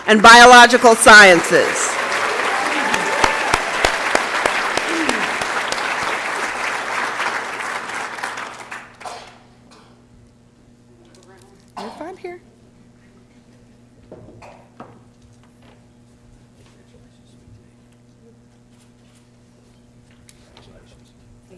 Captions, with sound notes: and Biological Sciences. [ Applause and Cheering ] Right here. >> Congratulations.